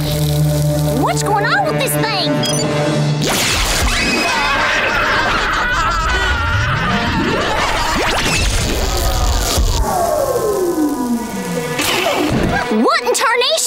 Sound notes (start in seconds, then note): 3.8 screaming